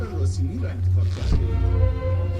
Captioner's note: TV Sound